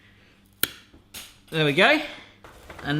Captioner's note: snapping